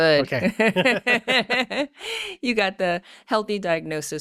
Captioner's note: laughing